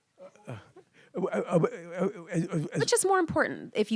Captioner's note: stammers